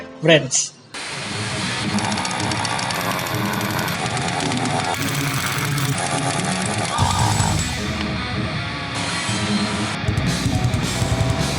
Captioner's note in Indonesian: suara mesin as-725b